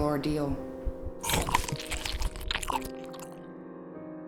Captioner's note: bite squishing